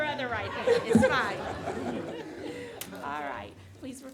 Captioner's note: audience laughing